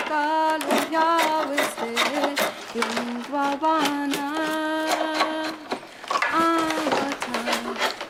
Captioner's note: singing continues; scratching, shaving wood